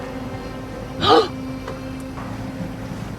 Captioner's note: gasps